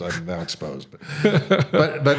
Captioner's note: chuckling